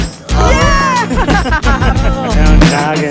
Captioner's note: laughing and cheering